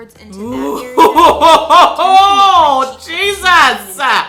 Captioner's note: laughs